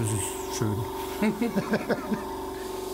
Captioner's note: they laugh